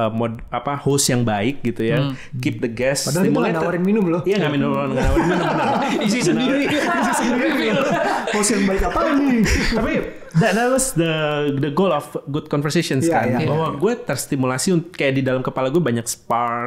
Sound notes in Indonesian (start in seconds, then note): 4.9 tertawa